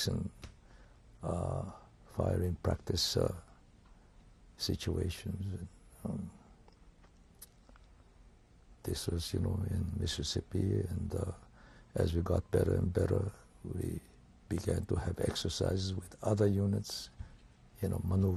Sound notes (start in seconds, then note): 5.9 pauses for 3 seconds